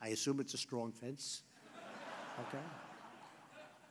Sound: laughter

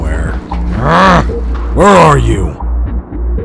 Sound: grunting

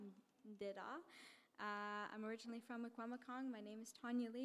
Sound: in English

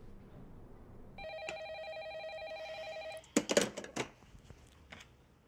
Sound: telephone ringing

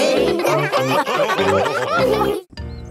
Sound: all laughing

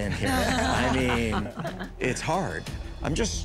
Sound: laughter

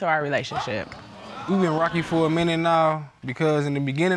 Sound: audience exclaiming

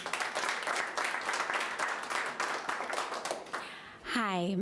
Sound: audience applauding

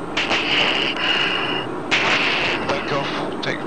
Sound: heavy breathing

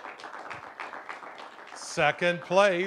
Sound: applause

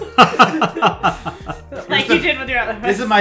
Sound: all chuckle

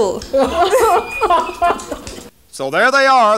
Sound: huell laughs

